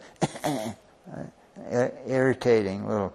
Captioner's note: coughing